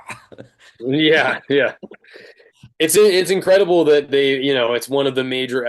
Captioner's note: chuckles